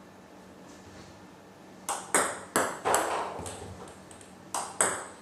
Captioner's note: ball ping pong hitting